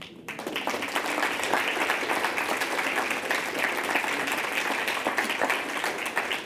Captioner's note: clapping